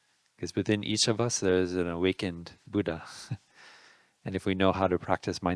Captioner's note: laughing